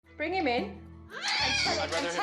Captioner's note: child screaming